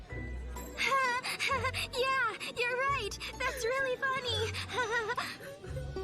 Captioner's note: laughs to suppress the pain